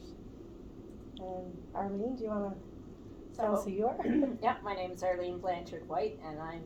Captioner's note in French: s'éclaircit la gorge